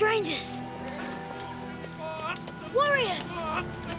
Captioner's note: yelling